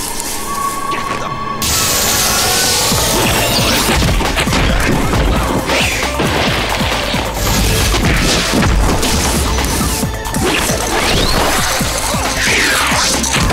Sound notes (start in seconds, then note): 8.1 screams